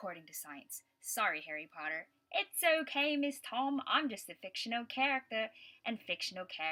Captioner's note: in a British accent